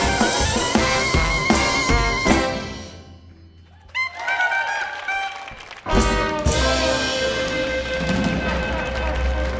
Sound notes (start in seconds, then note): 3.6 audience applauding; 3.6 audience cheering